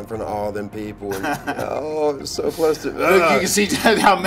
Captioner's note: laugh